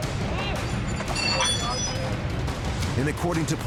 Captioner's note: metal clanging